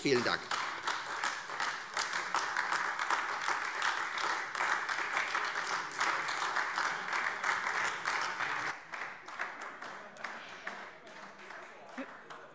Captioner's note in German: Beifall Freie Demokraten und AfD